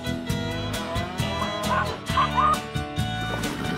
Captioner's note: chicken clucking